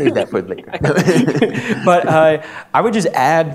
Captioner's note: laughs